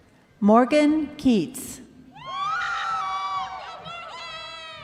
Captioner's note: crowd cheering